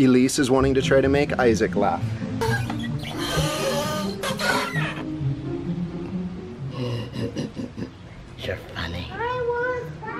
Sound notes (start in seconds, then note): 2.4 tires squeaking; 6.7 evil laughing